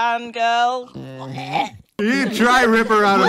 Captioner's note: gags